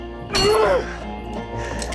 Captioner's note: metal clanging